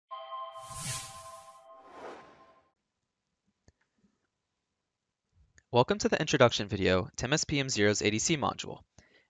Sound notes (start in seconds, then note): 0.6 swoosh